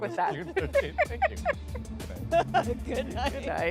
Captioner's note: laughter